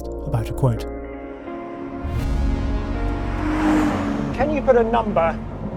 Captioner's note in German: mystische Musik; Automotor dröhnt